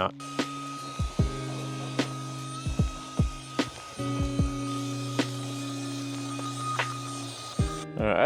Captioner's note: vacuum noises